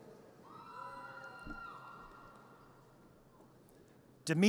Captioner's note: audience cheers